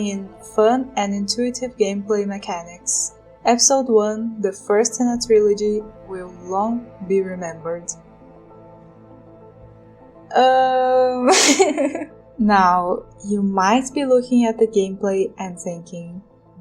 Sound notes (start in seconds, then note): 11.2 laughs